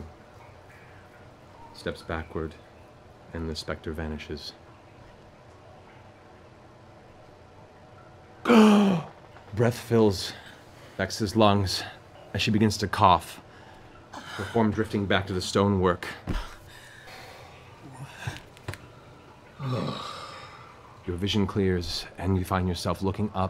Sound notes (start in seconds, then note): 6.3 gasping